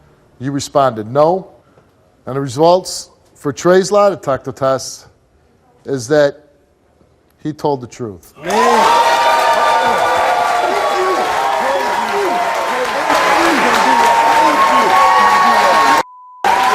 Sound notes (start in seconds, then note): 8.4 audience cheers; 10.7 overlapping chatter; 13.4 audience applauds